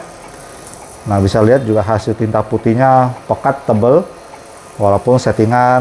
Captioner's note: printer machine noise